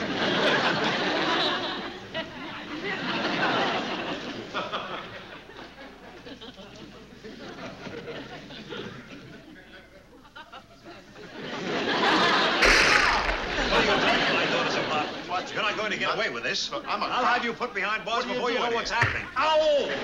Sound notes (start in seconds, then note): 12.6 glass breaks; 19.0 thump